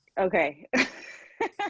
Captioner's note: laughs